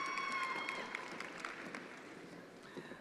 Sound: attendees applauding

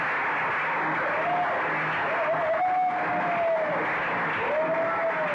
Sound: audience cheering

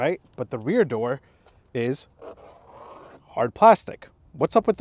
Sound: scratching

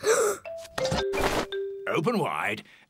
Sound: gasps

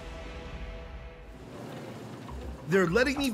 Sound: machinery running

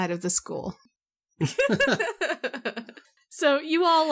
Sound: all laugh

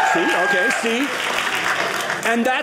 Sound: audience clapping

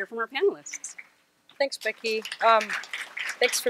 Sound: audience applauds

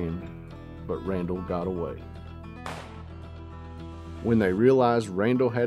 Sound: gun popping

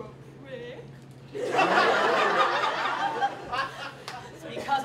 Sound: laughter

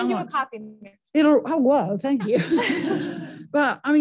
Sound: audience laughs

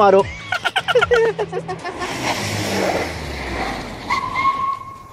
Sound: laughing

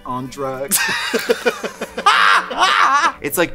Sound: both laughing

